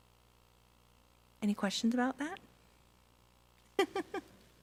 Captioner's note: laughs